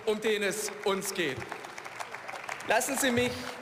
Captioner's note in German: Beifall